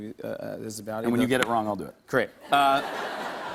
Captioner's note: laughter